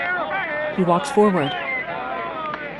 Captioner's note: whistling